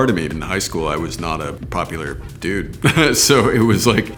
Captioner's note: laughs